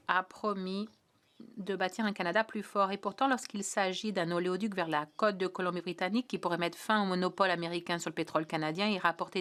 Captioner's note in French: voix de l'interprète